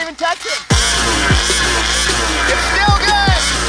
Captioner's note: RC engine revving